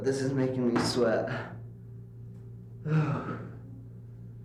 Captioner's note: deep breath